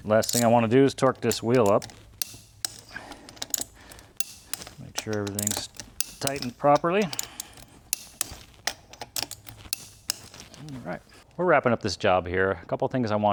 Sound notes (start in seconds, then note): 2.2 drilling; 7.0 drilling